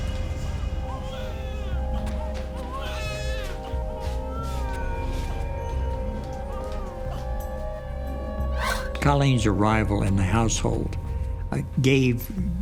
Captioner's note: baby cries